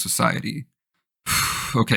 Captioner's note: sigh